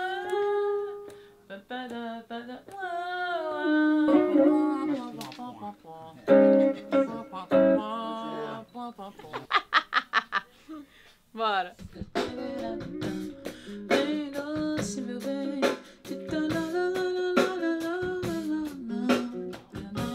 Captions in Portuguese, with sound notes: (cantarolando) (sons com a boca) (risos) Bora! Vem doce, meu bem...